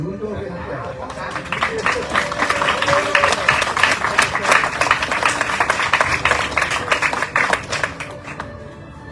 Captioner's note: audience cheering, applauding